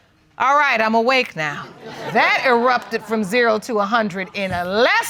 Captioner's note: audience laughing